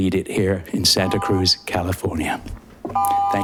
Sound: buzzer chiming

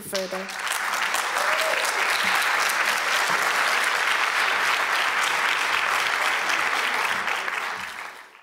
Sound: applause

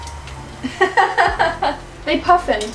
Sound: more giggling

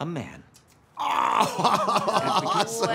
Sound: laughs

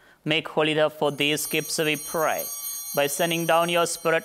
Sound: chimes ringing

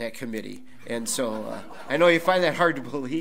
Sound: audience laughs

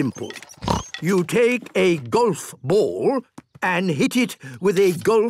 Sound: snort

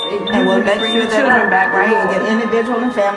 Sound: door beeping

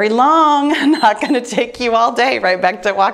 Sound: timer beeps

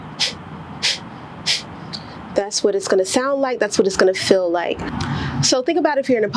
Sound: strong exhale

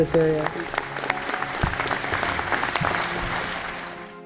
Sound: applause

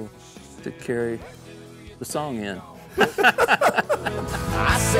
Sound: laughing

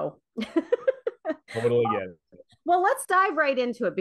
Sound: laughs

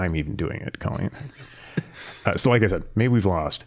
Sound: chuckling

